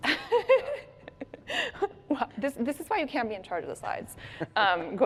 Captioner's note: laughs